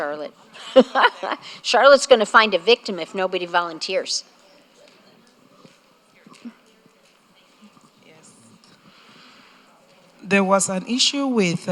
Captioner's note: laughter